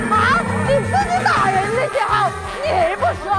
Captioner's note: voice cracking with rage